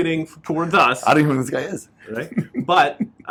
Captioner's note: laughs